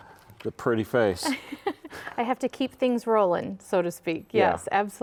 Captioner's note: laughs